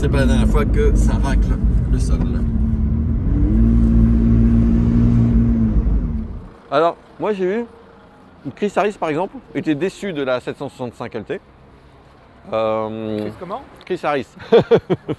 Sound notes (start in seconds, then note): 3.7 whirring; 14.4 laughs